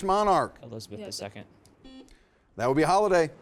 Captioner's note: buzzer sounding